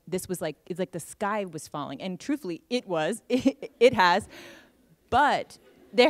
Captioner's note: laughter